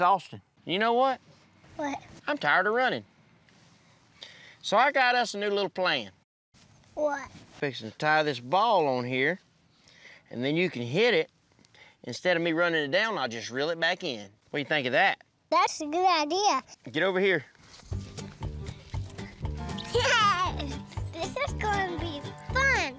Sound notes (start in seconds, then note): 18.2 giggling